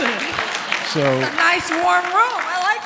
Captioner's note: audience clapping